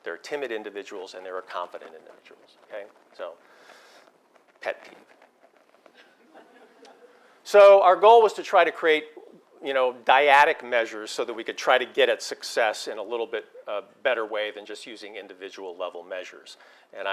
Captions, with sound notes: There are timid individuals and there are confident individuals, okay? So Pet peeve. >> [LAUGH] >> So our goal was to try to create dyadic measures so that we can try to get a success in a little bit of a better way than just using individual level measures,